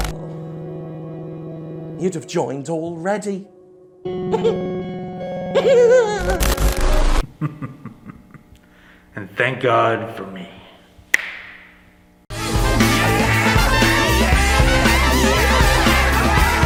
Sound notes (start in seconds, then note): 5.5 giggles; 7.2 chuckles; 11.1 snaps